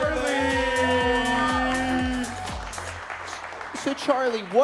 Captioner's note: crowd applauding